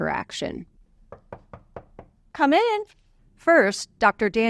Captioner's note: knocking on door